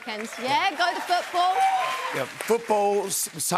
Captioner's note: cheers and applause